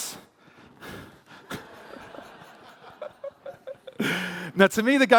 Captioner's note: laughter